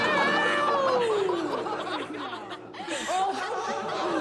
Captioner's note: laughter